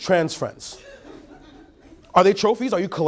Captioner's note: laughing